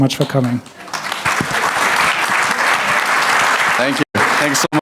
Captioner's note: audience applauding